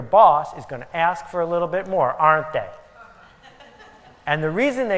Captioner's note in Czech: Smích